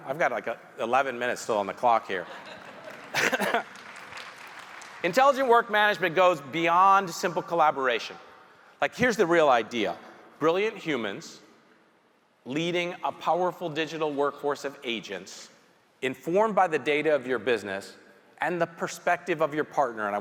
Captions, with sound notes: I've got like 11 minutes still on the clock here. (audience chuckling) (audience applauding) Intelligent Work Management goes beyond simple collaboration. Like, here's the real idea. Brilliant humans leading a powerful digital workforce of agents informed by the data of your business and the perspective of your partner,